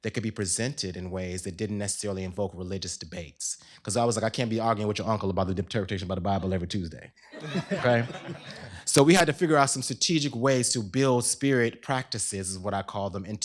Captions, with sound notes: could be presented in ways that didn't necessarily invoke religious debates. Because I was like, I can't be arguing with your uncle about the interpretation of the Bible every Tuesday. [LAUGHTER] So we had to figure out some strategic ways to build spirit practices, is what I call them,